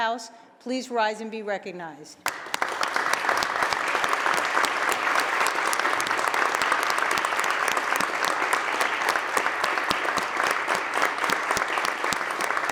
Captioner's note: applause